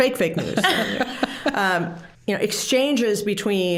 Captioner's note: all laughing